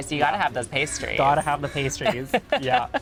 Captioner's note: giggling